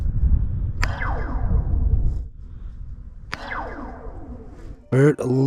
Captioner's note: wire twengs